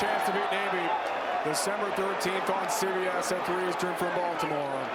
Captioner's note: cheers and applause